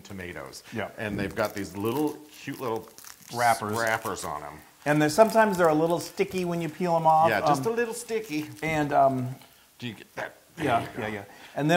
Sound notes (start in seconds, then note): 10.6 laugh